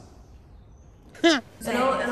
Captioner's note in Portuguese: risos